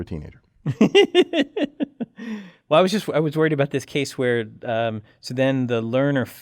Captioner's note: laugh